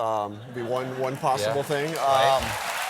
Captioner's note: applause